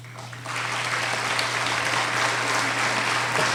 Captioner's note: applauding